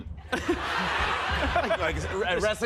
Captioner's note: laughter